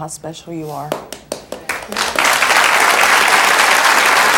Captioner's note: audience cheers